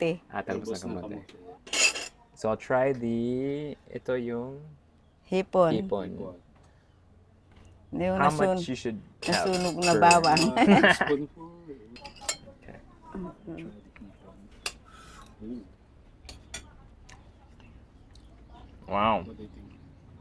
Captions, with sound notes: - Ah, sweet potato leaves. So I'll try the... This is the... - Shrimp. - How much you should have for... (laughs) Wow.